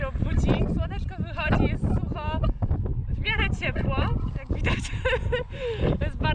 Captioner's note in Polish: haha